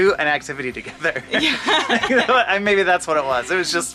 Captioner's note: both laugh